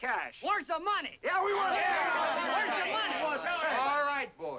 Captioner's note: men shout over each other